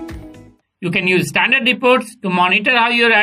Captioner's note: male Voice